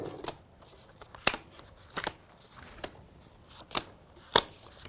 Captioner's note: cards click